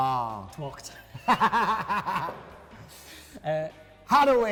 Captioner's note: both laughing